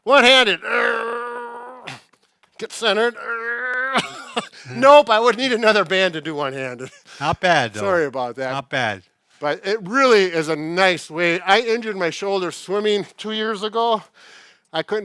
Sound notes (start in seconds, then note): 0.6 grunting; 3.0 grunting and laughing